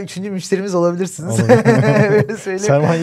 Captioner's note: laughs